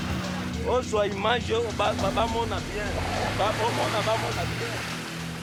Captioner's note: foreign language